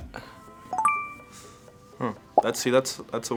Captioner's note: ding